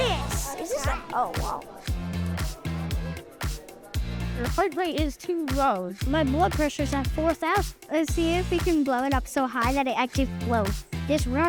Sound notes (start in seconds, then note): 2.3 excited chatter